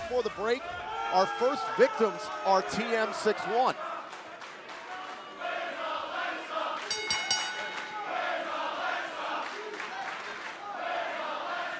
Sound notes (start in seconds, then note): 5.0 fans chanting; 6.8 bell ringing